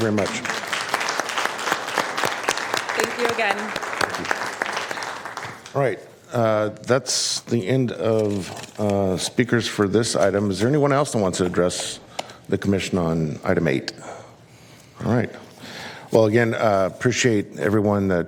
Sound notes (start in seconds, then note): 6.2 applause